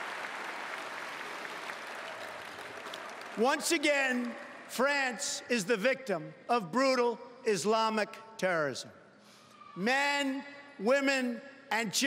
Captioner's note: cheering and Applause